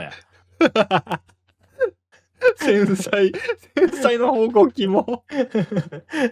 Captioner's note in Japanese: 笑い